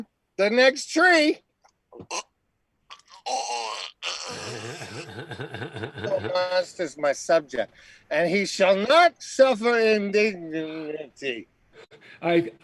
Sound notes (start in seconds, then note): 2.9 mock choking; 4.1 laughing